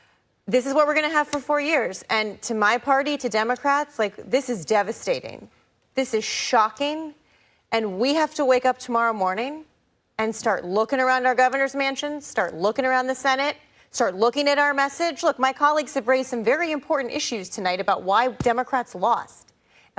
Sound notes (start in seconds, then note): none